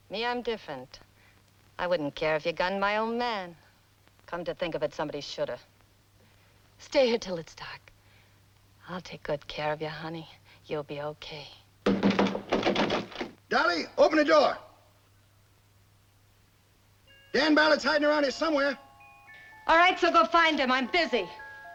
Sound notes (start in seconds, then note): 11.8 loud knocking on door